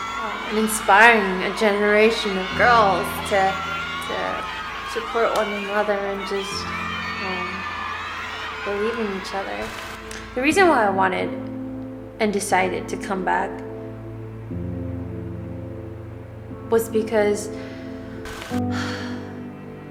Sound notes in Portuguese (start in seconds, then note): 18.7 suspira